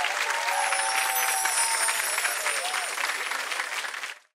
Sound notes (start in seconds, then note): 0.3 chimes